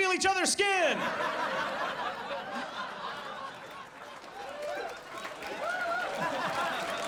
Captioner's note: audience laughs